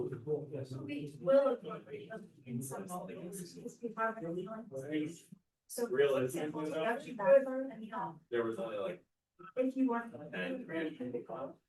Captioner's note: background chatter